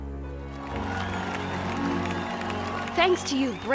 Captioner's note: cheers and applause